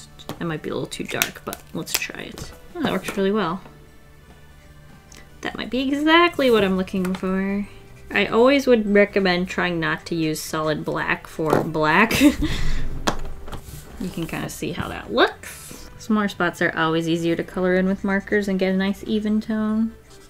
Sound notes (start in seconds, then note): 12.7 laughs